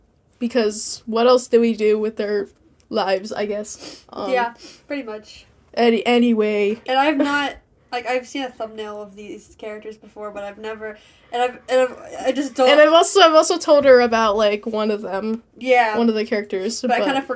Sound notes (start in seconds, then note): 11.9 stutter